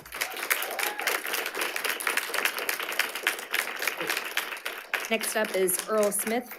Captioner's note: audience applauding and cheering